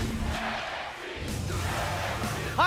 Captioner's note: fans chanting